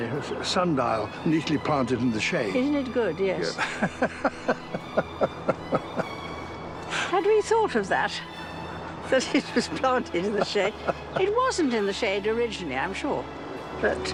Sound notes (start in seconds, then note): 3.5 laughs